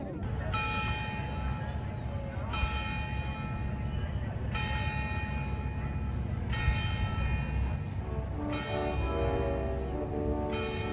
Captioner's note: slow bell tolling